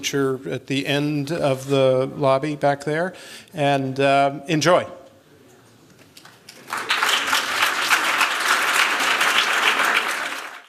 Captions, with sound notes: are at the end of the lobby, back there. And enjoy. [applause]